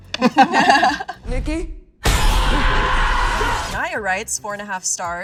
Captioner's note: diabolical screaming